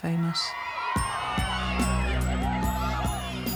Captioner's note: people chattering and shouting